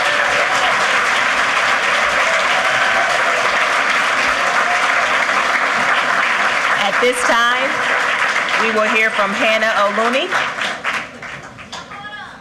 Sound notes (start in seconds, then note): 5.7 applause